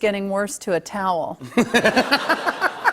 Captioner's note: laughter